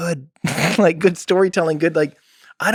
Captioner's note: Tim laughs